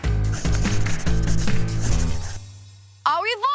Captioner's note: marker scribbling